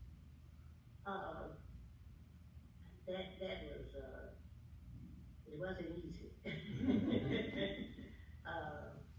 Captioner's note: laughs